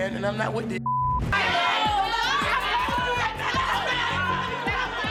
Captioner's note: yelling